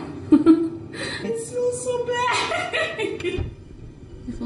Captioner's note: giggles; laughs